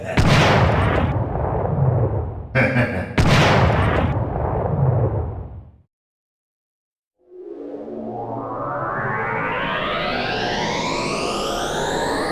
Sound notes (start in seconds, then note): 0.1 gunshot; 2.5 laughing; 3.1 gunshot; 7.4 electronic fade-in